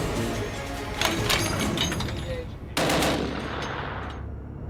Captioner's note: dramatic music; gun clicks and fires